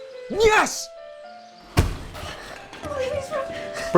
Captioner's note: furniture slamming